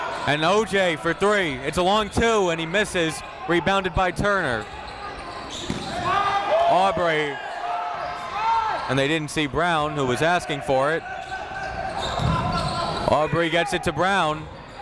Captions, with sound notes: And O.J. for three, it's a long two and he misses, rebounded by Turner. (crowd talking) (coaches yelling) Aubrey, and they didn't see Brown who was asking for it. Aubrey gets it to Brown.